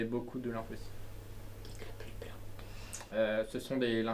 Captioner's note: whispering